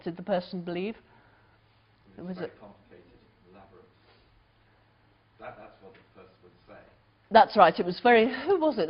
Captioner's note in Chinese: 無聲